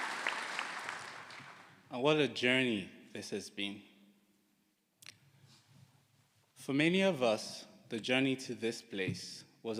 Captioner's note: applause